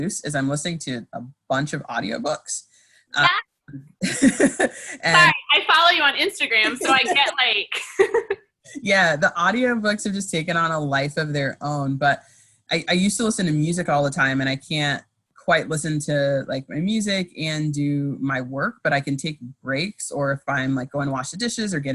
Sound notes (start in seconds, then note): 4.0 laughs; 6.6 laughing; 6.6 laughs